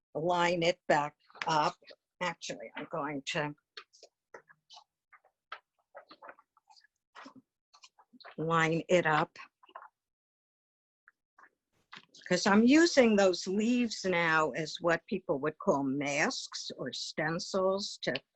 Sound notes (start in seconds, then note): 5.4 paper wobbling